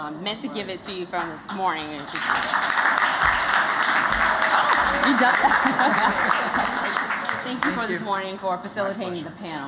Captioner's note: �applause�